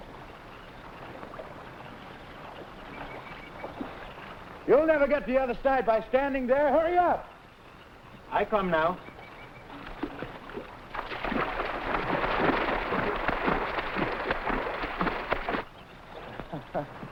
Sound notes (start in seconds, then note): 9.6 water sloshing; 16.4 Gorman laughing; 16.6 water sloshing